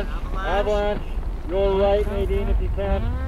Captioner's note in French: à la radio